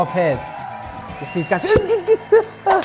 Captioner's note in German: Ängstliche Laute